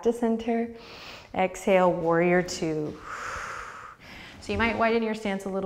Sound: deep breath

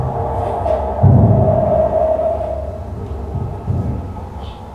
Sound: low underwater thudding

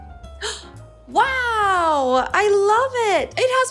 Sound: gasps

